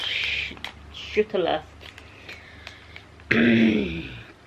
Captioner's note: clears throat